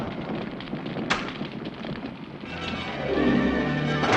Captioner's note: fire crackling